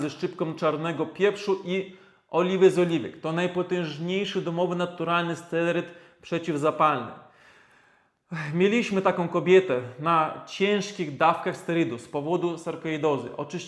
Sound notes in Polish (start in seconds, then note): 7.3 westchnienie